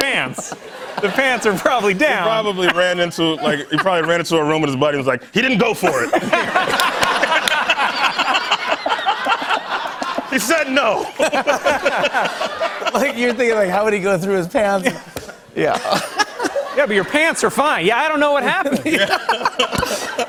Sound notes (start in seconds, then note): 5.8 laughter; 15.6 laughter